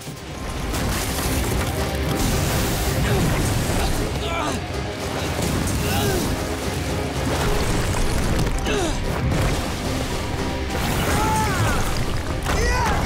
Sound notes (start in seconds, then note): 2.7 grunting; 11.0 screaming